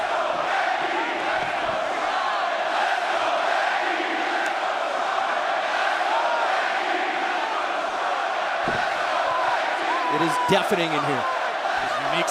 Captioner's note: fans chanting